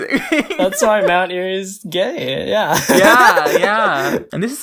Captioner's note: laughs; laughs